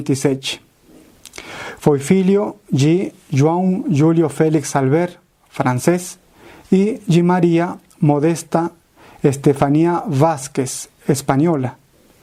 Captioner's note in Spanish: francés